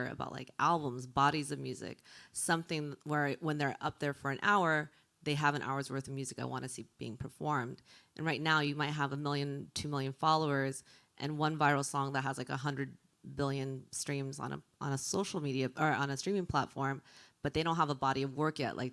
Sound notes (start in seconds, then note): none